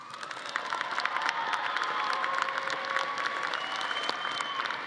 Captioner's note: audience applauding